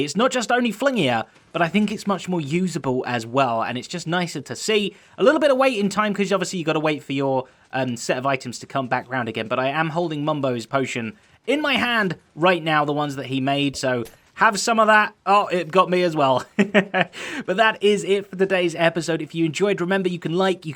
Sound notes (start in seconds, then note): 16.3 chuckles